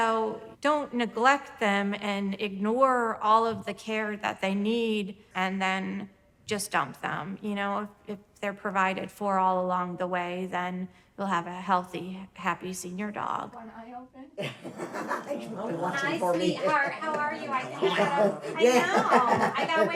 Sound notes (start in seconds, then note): 14.9 chatter